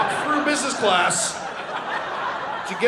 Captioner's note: audience laughing